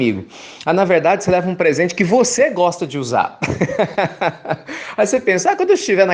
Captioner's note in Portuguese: risos